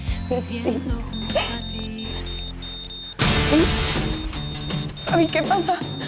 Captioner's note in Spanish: Se aceleran pitidos